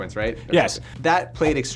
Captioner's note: laughs